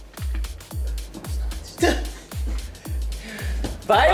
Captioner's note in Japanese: ささやき